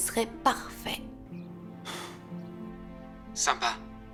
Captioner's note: sighs